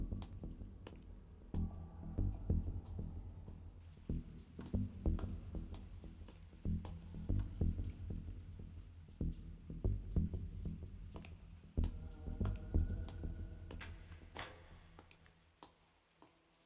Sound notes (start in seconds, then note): none